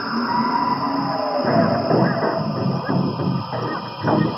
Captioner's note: garbled scream; distorted music plays